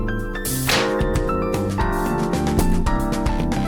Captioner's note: a splat and then creaking